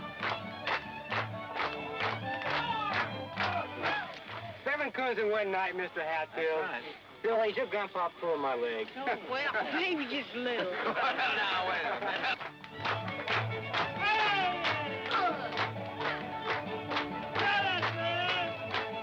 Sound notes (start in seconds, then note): 10.5 men laughing; 11.8 rhythmic clapping; 12.9 lively fiddle music